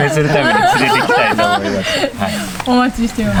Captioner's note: laughing